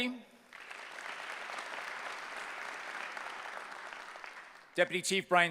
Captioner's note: applause